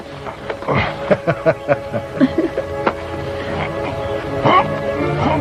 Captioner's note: straining